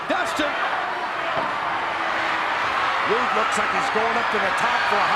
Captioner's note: applause